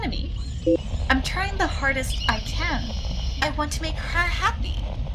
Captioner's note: A Beep, Radio Static continues